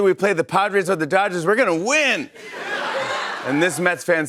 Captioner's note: laughter